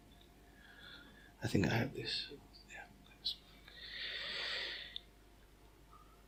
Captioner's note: whispers